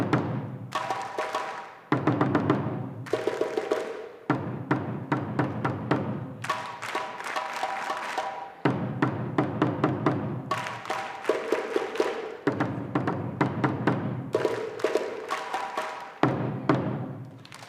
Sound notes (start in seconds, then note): 5.9 drums playing; 10.5 audience applauding; 16.2 drums playing